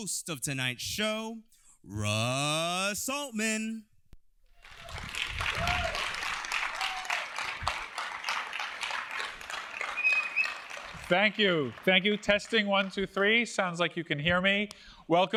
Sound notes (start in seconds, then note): 4.6 applause